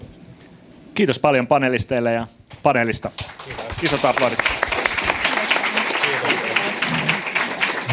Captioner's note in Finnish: aplodeja